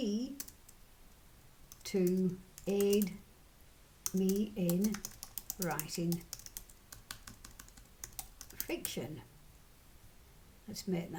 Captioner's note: typing